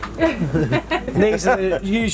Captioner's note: all laughing